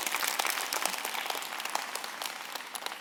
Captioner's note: applause